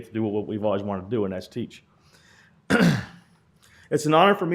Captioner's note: clears throat